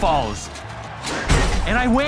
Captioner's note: crowd cheering, applauding